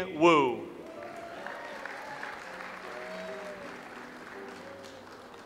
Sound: audience applauds

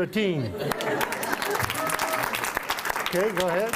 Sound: applause

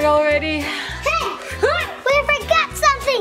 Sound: yells

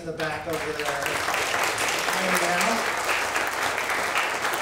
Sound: crowd applauding

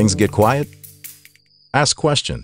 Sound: crickets chirping

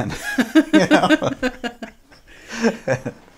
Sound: laughing

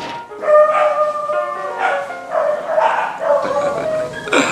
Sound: dogs barking

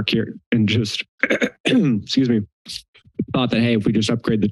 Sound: clears throat

